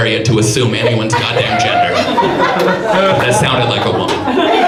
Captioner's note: audience laughs